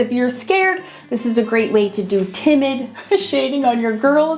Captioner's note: laughing